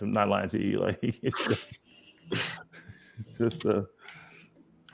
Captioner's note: laughing